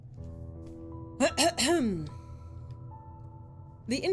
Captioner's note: coughing